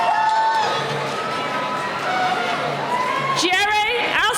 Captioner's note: cheering